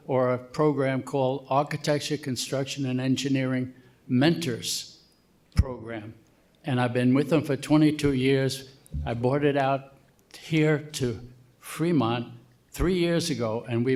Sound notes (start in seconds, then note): none